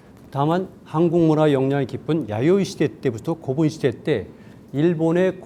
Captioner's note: speaking in Korean